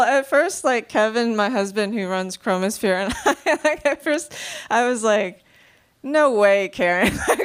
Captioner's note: laughing